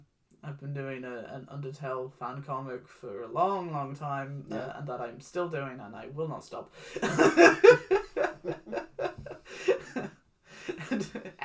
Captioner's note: laughs